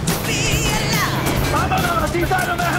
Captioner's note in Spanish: Disparos